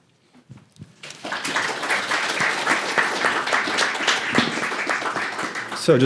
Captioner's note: applause